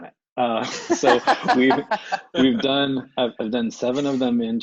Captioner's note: laughs